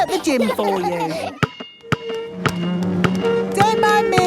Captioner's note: chair scraping